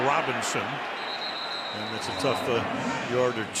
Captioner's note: whistle